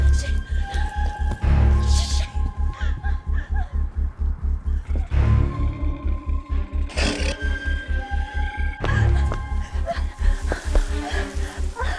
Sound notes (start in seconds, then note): 5.0 Brad growling; 9.2 Heather panting